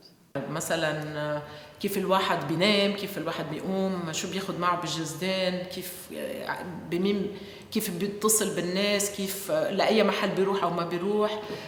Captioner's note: non-english speech